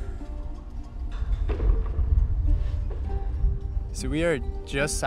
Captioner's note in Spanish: sonidos de construcción